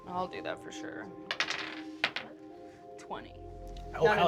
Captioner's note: dice rolls